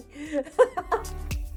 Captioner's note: laughs